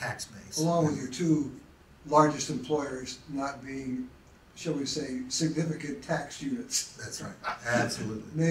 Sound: laughs

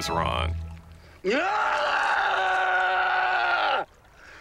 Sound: screams loudly

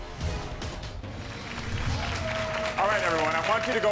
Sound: dramatic music; audience applauds

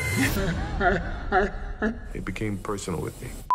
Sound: fake laughing

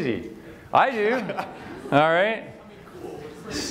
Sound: laughter

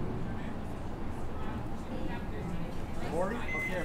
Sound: people chattering

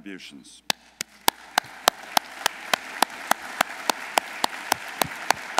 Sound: audience applauding

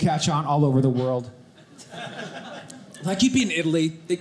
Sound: audience laughing

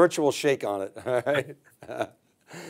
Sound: chuckles

